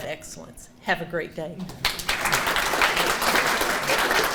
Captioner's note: audience applauding